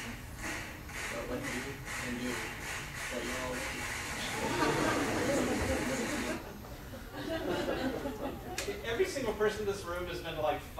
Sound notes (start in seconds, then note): 0.1 crowd in video claps; 4.2 audience laughs